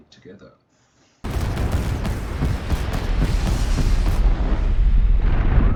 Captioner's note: explosions in quick succession; loud rumbling